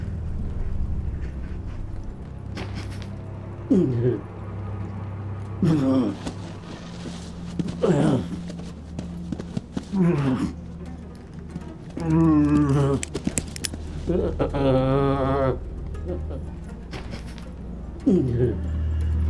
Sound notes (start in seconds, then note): 3.7 grunting